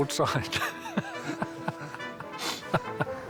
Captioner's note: laughs